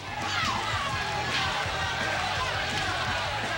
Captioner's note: crowd cheering